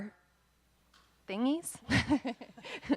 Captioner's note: laughing